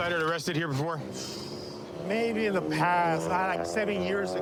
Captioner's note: exhales sharply